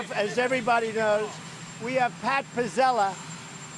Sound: reporters shouting questions

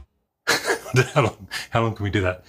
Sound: laughs

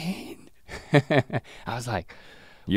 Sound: chuckles

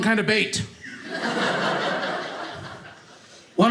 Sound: audience laughing

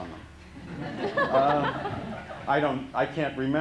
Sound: laughter

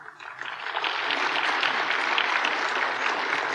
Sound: applause

